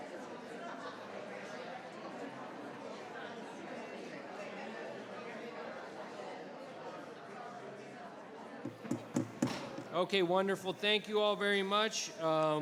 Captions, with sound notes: (group chattering continues) (gavel thudding) - Okay, wonderful. Thank you all very much.